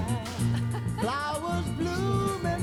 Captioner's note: laughs